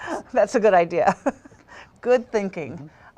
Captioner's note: laughter